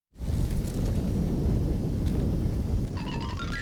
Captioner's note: rumbling